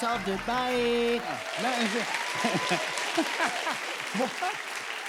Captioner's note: cheers and applause